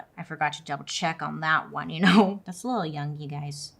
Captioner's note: laughs